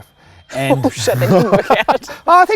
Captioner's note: laughs